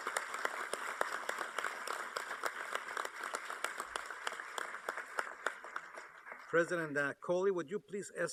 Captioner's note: applause